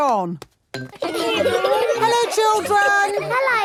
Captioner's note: laughter